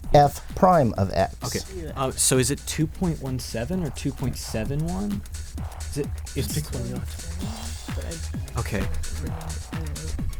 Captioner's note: whispering